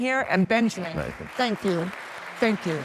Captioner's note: audience applauds